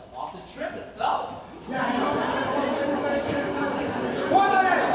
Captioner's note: hubbub intensifies